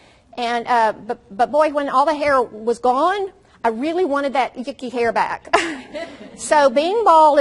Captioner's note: audience laughs